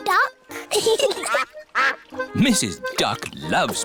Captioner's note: both giggling